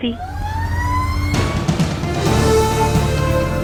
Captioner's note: siren wailing; dramatic music